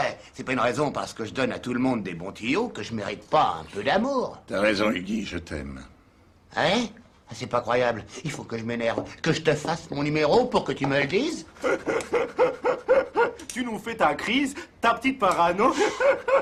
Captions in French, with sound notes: J'ai beau donner de bons tuyaux, je mérite quand même un peu d'amour. -T'as raison, Huggy. Je t'aime. -Ah oui ? Incroyable. Il faut que je m'énerve pour que tu me le dises ? [Il s'esclaffe.] -Tu nous fais ta crise ? Ta petite parano ?